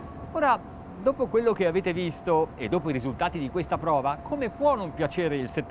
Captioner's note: speaking in foreign language